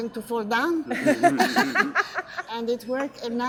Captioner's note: laughter